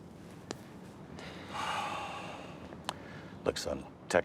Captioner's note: sighs